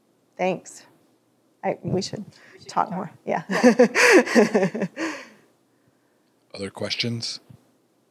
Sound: chuckles

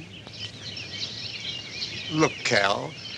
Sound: birds chirping

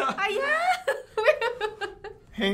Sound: laughs

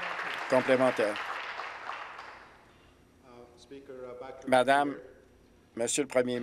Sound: applause

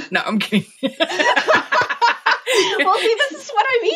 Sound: laughing

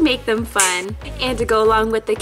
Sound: fingers snap

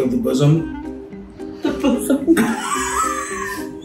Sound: laughing

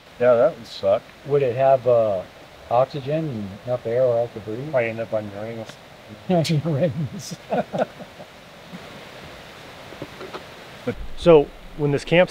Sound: laughing

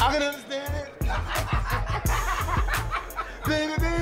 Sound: laughing lightly

